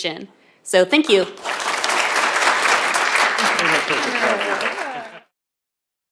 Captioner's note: applause